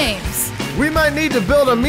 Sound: upbeat band music; crowd applauding

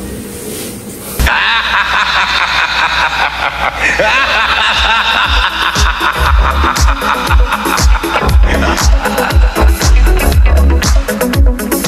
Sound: laugh

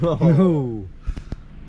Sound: laughing

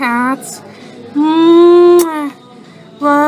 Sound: kissing sound

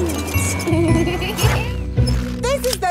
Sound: laughing

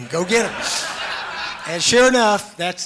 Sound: laughs

